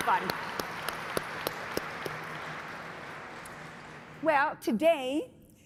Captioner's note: everyone applauding